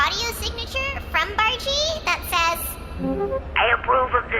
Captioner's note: playback start sound